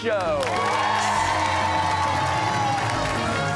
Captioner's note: cheers and applause